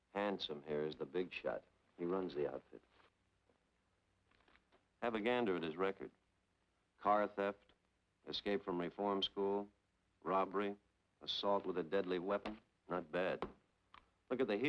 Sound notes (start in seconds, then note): none